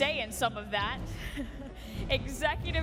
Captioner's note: laughs